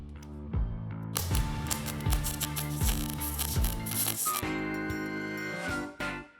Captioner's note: spark sounds; intro music